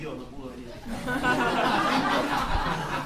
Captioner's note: laughter